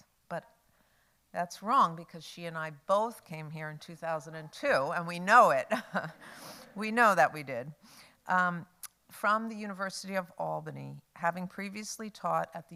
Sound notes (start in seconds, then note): 6.1 laughs